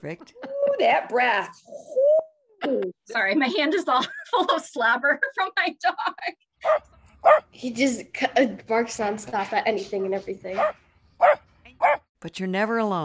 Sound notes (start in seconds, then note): 6.6 dog barking; 11.2 dog barking